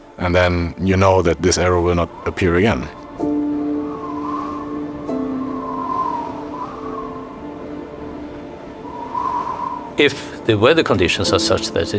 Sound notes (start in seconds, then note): 3.9 gentle music; 3.9 wind whooshes